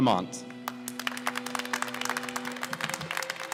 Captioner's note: applause